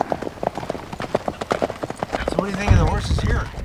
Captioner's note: hooves thumping